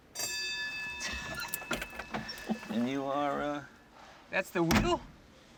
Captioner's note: bell rings